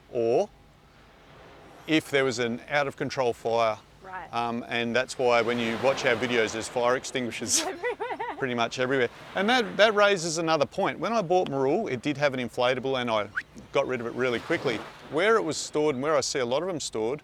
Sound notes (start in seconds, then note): 7.3 laughing; 13.2 whistles